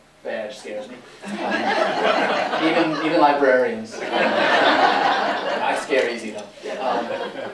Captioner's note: laughter